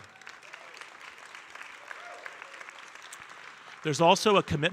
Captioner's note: audience applauding